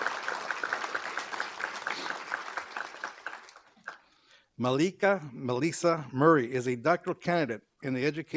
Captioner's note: applause